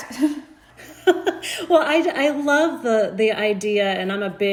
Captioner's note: laughing